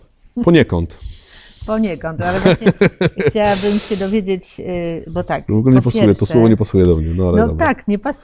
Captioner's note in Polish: śmiech